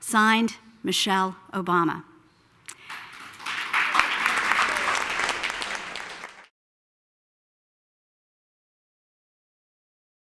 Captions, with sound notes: Signed, Michelle Obama. [APPLAUSE]